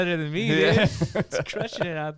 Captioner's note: laughing